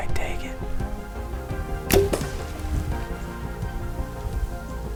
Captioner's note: arrow thumps